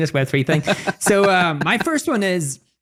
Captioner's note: laughing